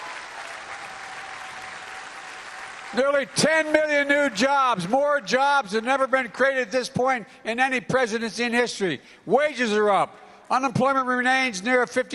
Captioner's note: applause